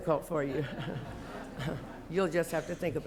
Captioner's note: laughter